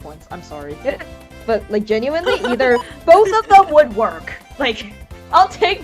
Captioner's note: laughs